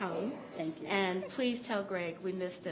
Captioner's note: laughter